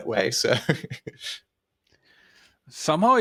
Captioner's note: laughs